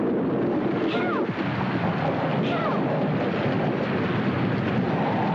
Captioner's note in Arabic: عواء الريح